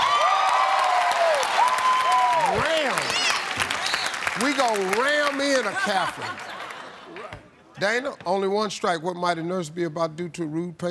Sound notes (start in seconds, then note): 0.0 cheering and applause; 5.6 laughter